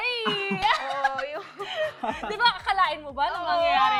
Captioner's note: laughs